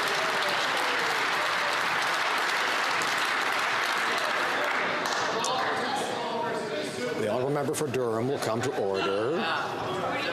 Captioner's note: some Applause